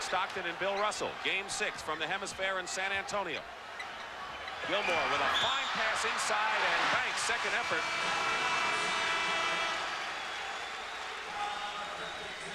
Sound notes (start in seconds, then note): 8.7 horn blows